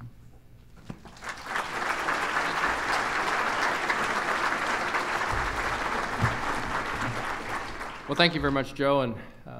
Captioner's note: applause